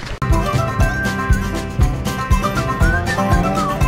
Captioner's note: whistling